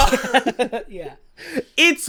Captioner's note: laughs